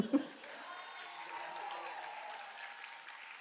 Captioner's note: chuckles; cheers and applause